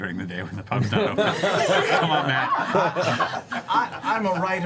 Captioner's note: laughter